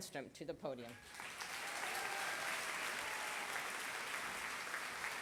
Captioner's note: applause